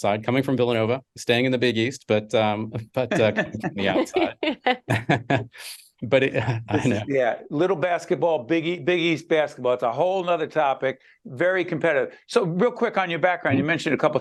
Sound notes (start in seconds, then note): 4.8 laughing